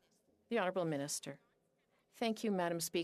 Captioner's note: speaking French